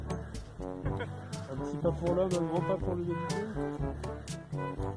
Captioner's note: in french